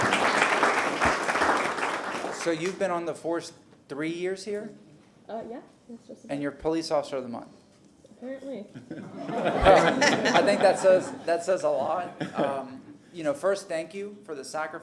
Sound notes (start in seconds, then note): 3.0 applause